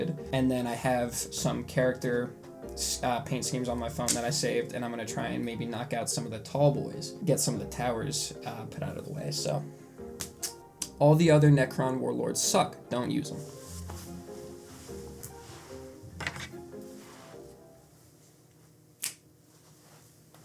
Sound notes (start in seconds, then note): 19.0 snaps fingers